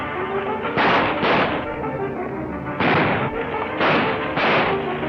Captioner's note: guns firing